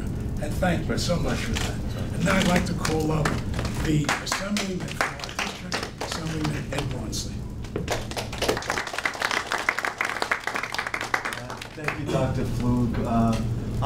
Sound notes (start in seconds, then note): 7.6 audience applauding